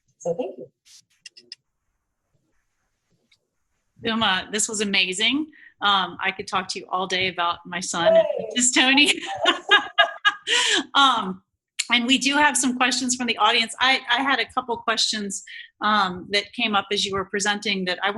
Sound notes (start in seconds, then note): 9.8 laughing